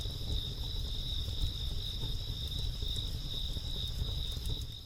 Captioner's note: crickets chirping continues